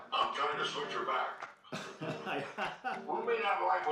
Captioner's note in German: lacht